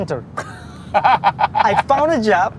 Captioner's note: loudly laughs